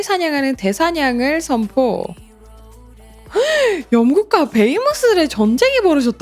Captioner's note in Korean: 헉 소리